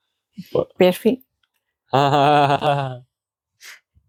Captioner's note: laughing